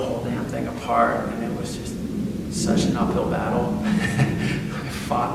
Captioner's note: laughs